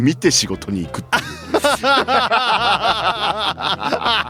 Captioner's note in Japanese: 笑い